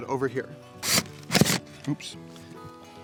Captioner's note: buzzing and thudding